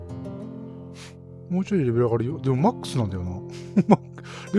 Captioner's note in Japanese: 笑い